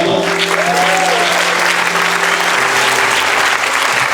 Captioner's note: clapping